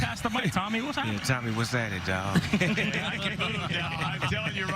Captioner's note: laughter